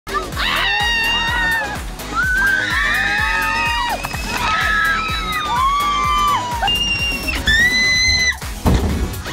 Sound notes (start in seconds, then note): 0.4 screams; 2.4 upbeat music; 6.8 screaming